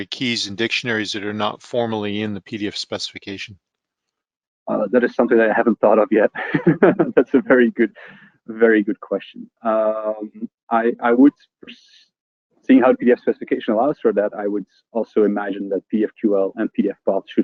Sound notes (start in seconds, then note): 6.3 laughs